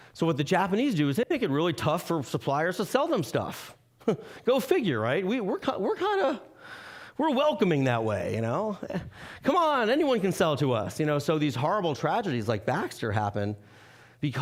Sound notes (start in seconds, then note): 4.1 chuckling